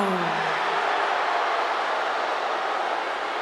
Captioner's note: crowd boos